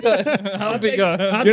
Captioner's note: laughing